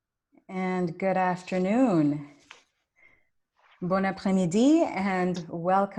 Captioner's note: speaks in foreign language